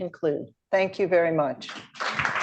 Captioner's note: applause